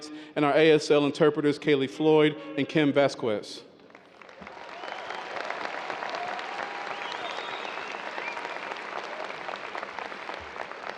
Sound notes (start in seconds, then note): 3.9 audience cheers and applause